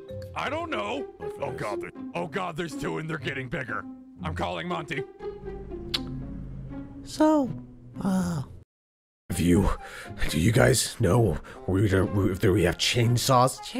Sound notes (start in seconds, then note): 5.9 smacks lips